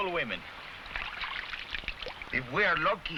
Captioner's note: water splashing